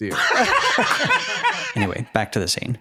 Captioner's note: laughing